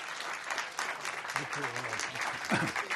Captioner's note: clears throat